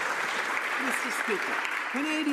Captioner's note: some Applause